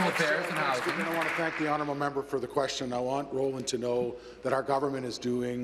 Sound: applause

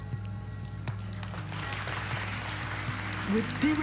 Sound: people applauding

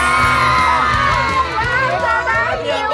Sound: they are joyfully shouting

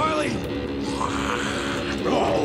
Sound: Riley growling

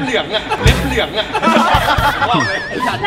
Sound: laughs

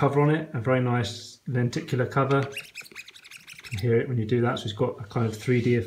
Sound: squeaking sound as I scratch it

